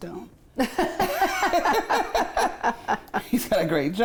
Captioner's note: both laughing